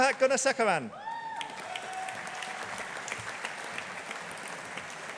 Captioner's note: audience applauding